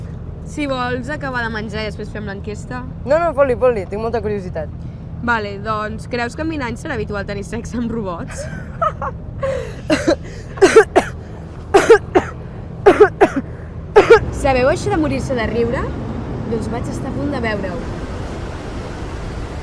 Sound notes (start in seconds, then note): 8.3 bursts out laughing; 10.1 chokes and starts coughing